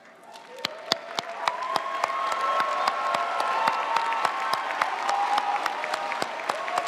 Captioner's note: audience applauding; audience cheering